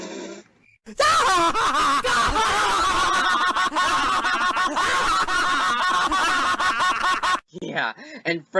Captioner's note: snickers; laughter